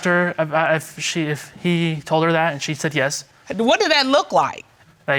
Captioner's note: stammering